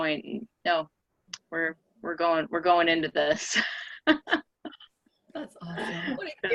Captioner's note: laughing